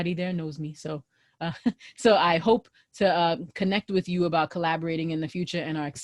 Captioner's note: laughter